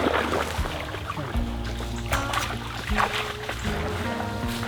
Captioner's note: dogs splashing in the water